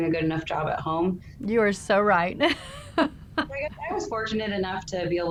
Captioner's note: laughs